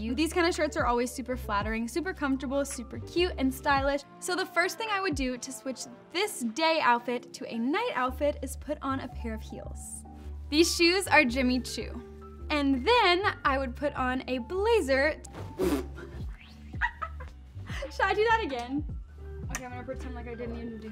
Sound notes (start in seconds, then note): 16.8 laughing